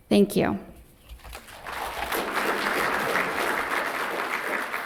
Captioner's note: applause